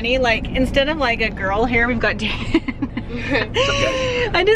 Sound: laughs

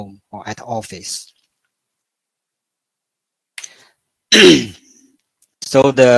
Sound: 沉默+咳嗽

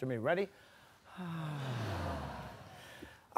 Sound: sighs

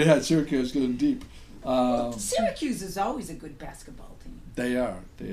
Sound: voiceover

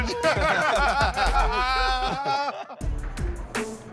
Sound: laughter

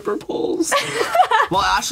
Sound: laughs

